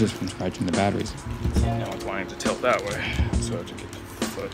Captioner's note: sigh